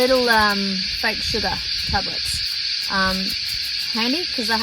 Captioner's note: shaking noise from tiny tablets; shakey, shakey, shakey noise